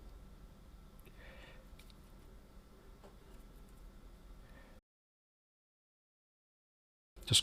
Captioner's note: silence